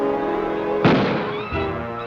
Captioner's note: gunshots